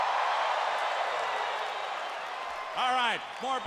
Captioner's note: crowd cheering